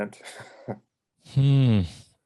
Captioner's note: man laughs